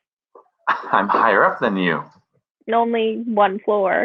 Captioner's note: scoffs